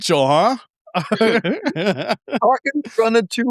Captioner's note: laughing